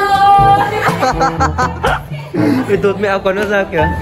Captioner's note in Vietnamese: cười